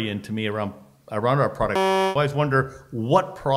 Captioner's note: beep